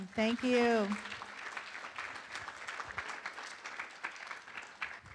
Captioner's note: room applauds